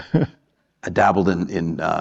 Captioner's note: laughter